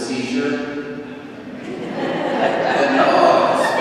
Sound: crowd laughing

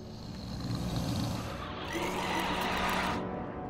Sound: low growling

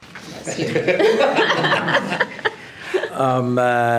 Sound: group laughing

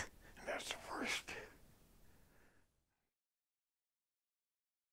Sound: sighs

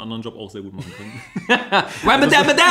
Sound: laughs

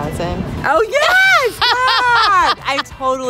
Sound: laughing

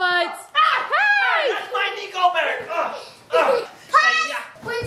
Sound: grunts

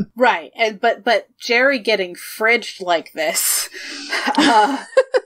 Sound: laughs

